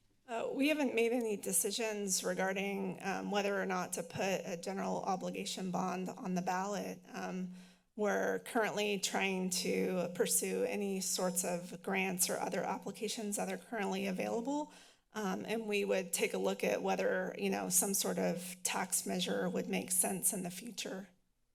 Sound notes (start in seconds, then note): none